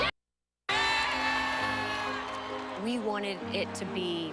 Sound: cheering

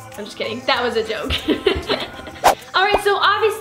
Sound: laughing

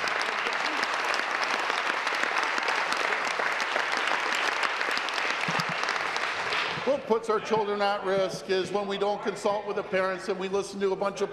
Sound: applause

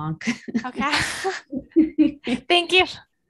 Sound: laughs

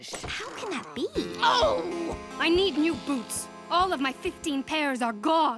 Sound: groaning

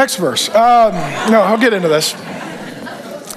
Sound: congregation laughs

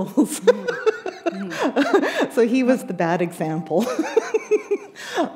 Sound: laughter; chuckle

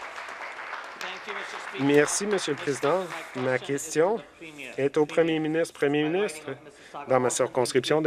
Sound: some Applause

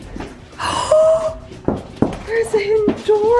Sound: gasps

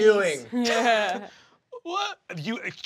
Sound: Kristen chuckling

